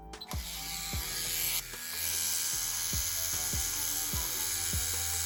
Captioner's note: light music; tattoo machine buzzing